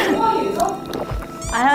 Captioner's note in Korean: 꿀꺽